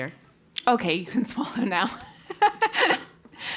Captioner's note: laugh